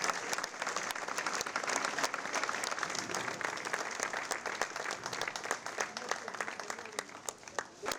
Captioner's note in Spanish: aplausos